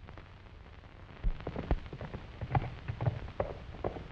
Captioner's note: hooves clattering